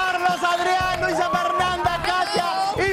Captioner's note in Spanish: aplausos